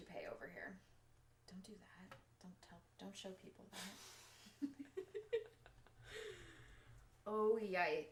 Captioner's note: laughs